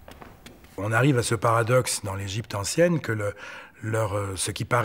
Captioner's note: French spoken audio